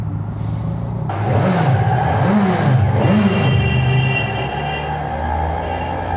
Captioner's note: low growl of the engine